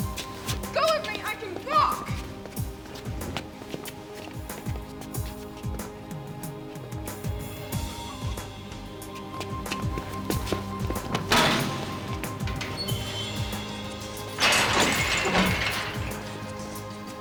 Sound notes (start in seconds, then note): 11.2 Danni thuds; 14.6 door rattles